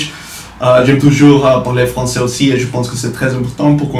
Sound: french

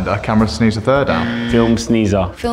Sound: incorrect buzzer

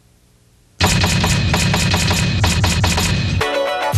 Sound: letters thudding; upbeat music

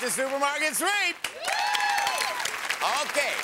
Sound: cheering

